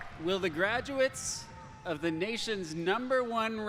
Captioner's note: applause